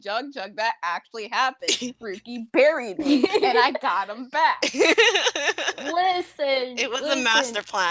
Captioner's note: laughing